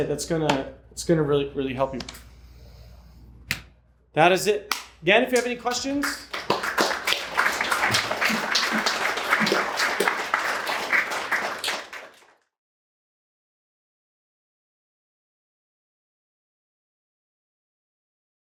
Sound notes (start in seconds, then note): 5.3 applause